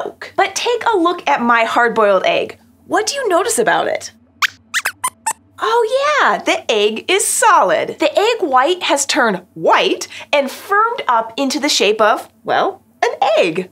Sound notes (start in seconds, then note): 4.7 squeaks squeaks